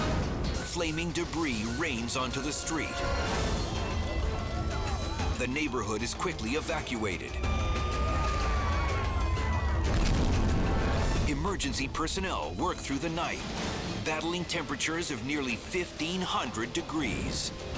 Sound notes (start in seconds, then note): 0.0 flames roaring; 7.2 sirens screaming; 9.8 fire roaring